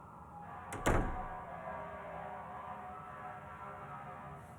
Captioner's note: door closing